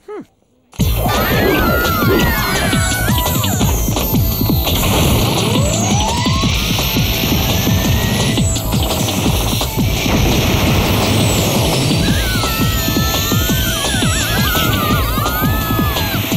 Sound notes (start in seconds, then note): 0.8 shrieking; 6.2 engine whirring; 9.2 rocket blasting; 11.7 screaming